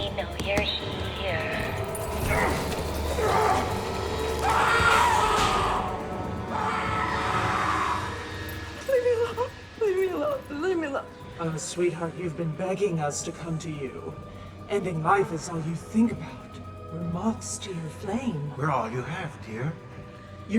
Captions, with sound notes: We know you're here. (Bobby grunting) (Bobby screams) - Leave me alone, leave me alone. Leave me alone. - Oh, sweetheart. You've been begging us to come to you. Ending life is all you think about. We're moths to your flame. - We're all you have, dear.